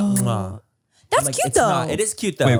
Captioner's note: Manny smooches